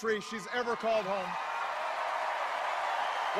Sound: cheers and applause

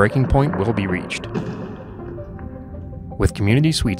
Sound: iceburg breaks

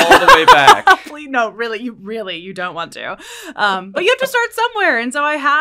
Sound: laugh

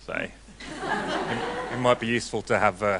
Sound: audience laughing

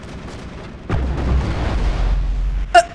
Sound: guns shooting; rockets blasting

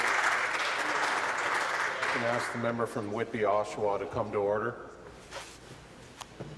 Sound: voice trailing

